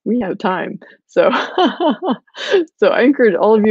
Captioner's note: laughing